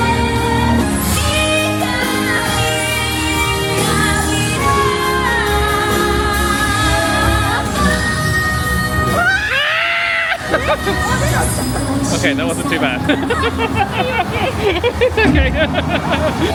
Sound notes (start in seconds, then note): 1.9 character singing muffled; 9.1 screaming and laughing; 14.7 laughing